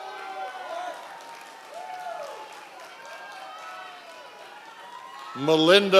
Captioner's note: members of the audience cheering